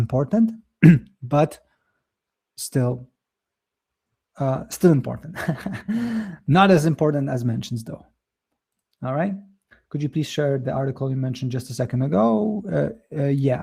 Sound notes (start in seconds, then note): 0.8 clears throat; 5.3 chuckles